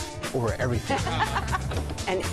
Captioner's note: laughter